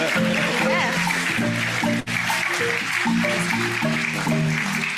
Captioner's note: audience applauds and marimba band plays theme song